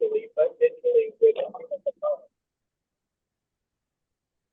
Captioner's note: speaks faintly